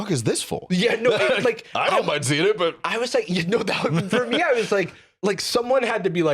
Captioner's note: laughs